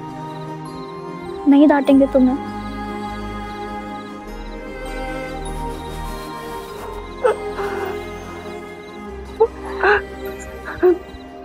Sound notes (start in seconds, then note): 6.7 sobbing